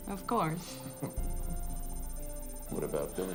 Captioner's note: chuckles